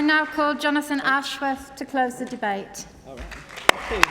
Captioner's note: applause